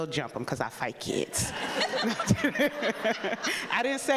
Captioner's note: people laughing